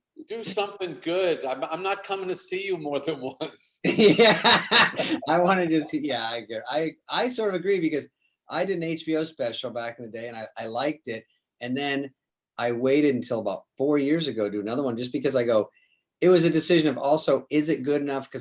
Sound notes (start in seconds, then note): 3.8 David laughs